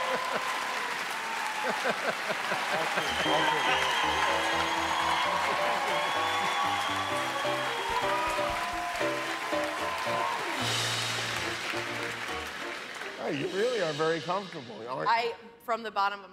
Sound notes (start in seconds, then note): 0.0 laughter and applause